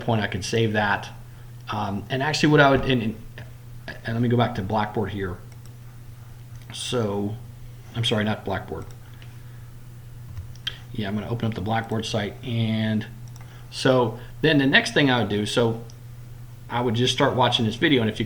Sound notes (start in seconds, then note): 5.5 click; 8.6 clicking